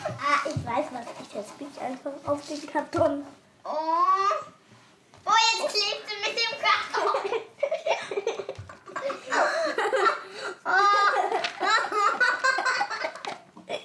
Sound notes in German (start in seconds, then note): 6.9 Sie lachen